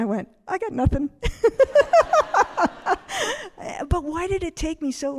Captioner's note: all laughing